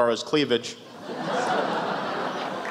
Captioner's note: laughs